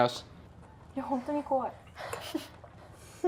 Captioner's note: speaking foreign language; women laughing